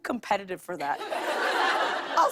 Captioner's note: laughter